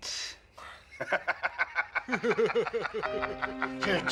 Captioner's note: men laughing; somber music